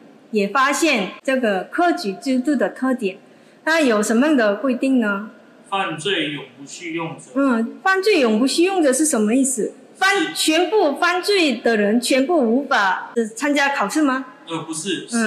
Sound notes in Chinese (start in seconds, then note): 6.1 朗讀